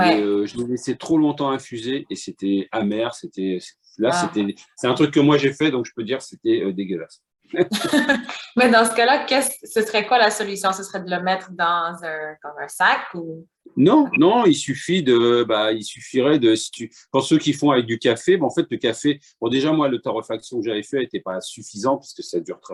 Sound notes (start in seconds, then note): 7.6 laughter